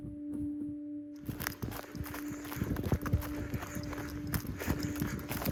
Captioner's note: footsteps crunching